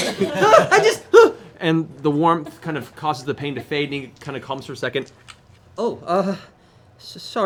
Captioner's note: yelps